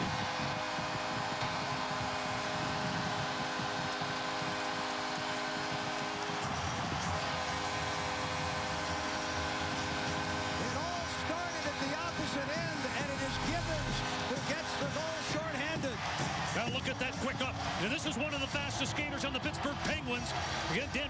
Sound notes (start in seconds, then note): 5.3 cheers and applause; 7.2 horn blaring